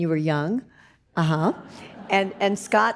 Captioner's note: audience laughs